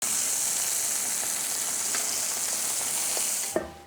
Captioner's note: sizzling sound